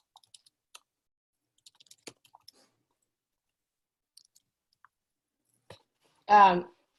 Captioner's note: silence